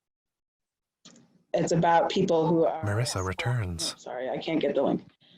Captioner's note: distorted woman's voice